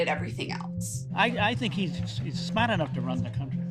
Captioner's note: soundbite of archived recording